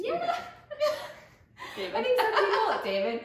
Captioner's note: laughter